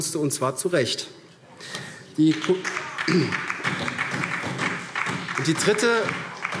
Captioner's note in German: Beifall SPD